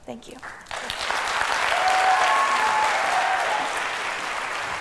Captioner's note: applause